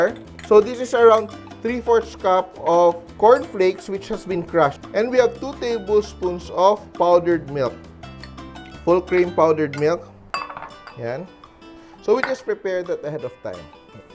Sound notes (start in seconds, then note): 0.1 clang; 9.7 clang; 10.3 clink